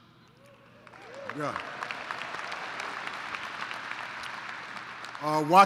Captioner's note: applause